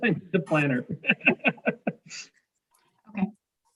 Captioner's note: mayor laughs softly